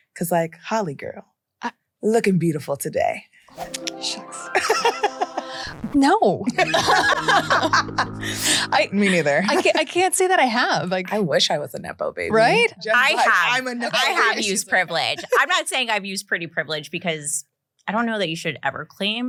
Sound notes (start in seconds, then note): 6.4 laughs; 6.5 everyone laughs